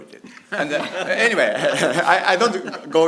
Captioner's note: laughng